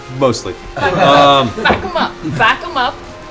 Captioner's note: laughter